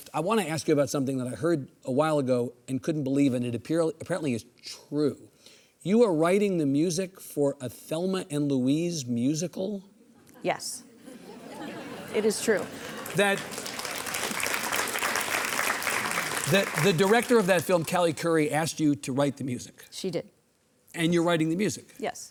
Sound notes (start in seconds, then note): 12.1 audience applauding